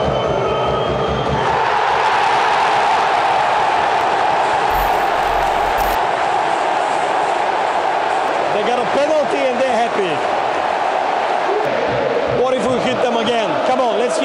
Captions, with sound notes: (Fans screaming) They've got a penalty and they are happy! What if we hit them again come on let's